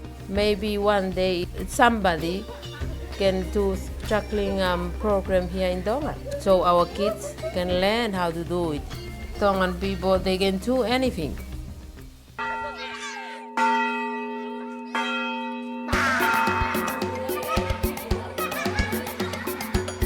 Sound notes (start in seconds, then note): 12.4 bells ringing; 15.9 fast paced music